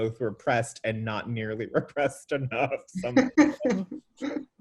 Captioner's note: laughs